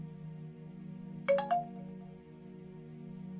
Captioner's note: sound of an incoming message